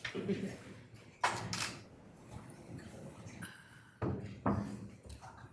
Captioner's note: camera clicking